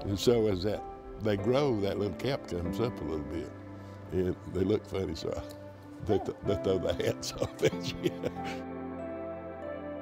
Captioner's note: laughing